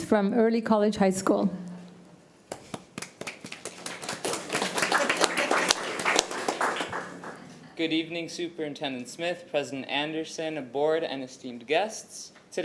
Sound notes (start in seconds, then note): 2.5 committee applauding